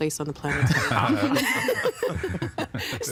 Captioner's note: all laughing